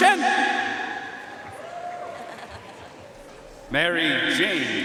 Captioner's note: audience cheering and applauding